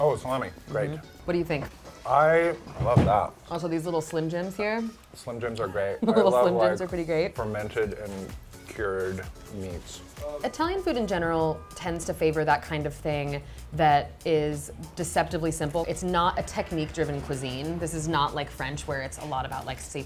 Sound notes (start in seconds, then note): 5.9 laughs